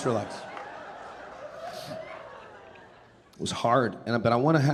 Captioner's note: audience laughing